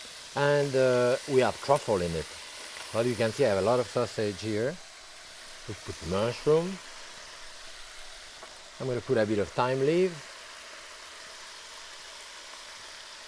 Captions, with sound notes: and we have truffle in it. Now you can see I have a lot of sausage here. We put mushroom. (sizzling continues) I'm gonna put a bit of thyme leaf.